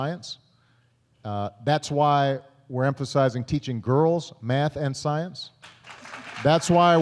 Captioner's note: applause